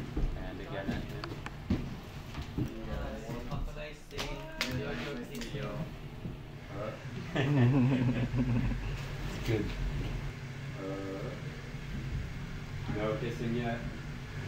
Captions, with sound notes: And again at him. (Laughter) That’s good. - No kissing yet.